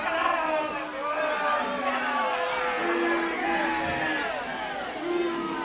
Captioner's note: audience boos